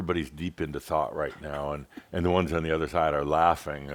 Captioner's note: giggles